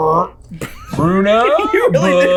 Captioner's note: laughing